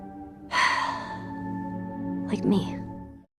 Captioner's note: sighs